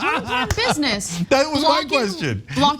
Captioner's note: laugh